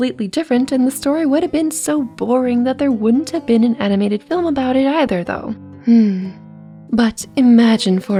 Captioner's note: sigh